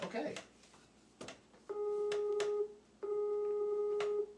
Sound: calling on Skype

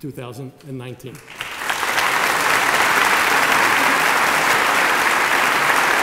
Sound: applause

